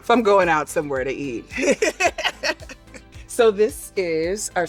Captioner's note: laughs